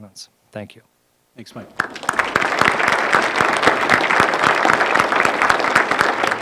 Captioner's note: applause